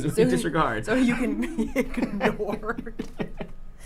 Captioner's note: laughs